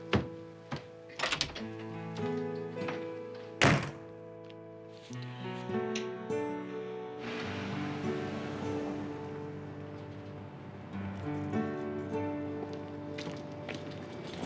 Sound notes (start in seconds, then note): none